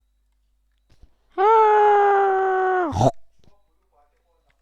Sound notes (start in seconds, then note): 1.3 screams